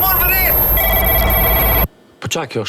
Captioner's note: phone ringing loudly